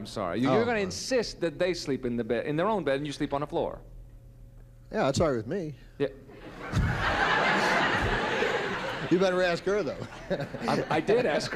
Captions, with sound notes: You're going to insist that they sleep in the bed-- in their own bed, and you sleep on the floor? -Yeah, that's all right with me. (laughter) You better ask her, though. -I did ask her, and I'm going to find